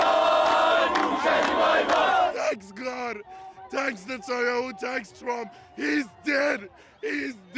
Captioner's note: cheers and Applause